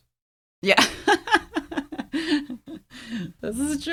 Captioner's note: laughs